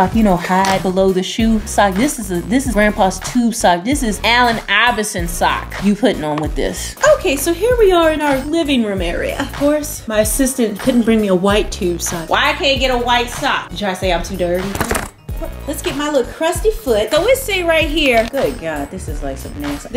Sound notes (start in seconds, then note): none